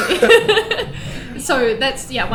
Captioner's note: laughing